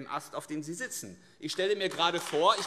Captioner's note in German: Beifall AfD